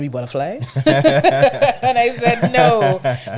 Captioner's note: laughing